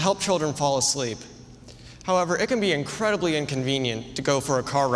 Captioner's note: none